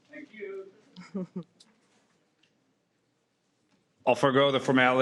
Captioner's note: laughs